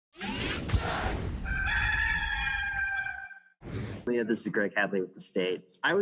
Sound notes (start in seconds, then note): 1.4 cock crows